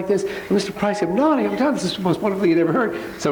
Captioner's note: slurs words